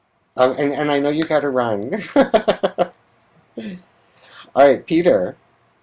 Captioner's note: laughs